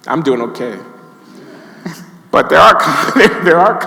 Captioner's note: audience laughing